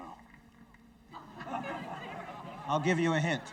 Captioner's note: audience chuckles